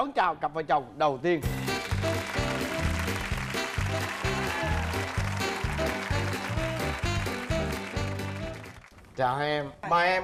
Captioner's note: applause and music theme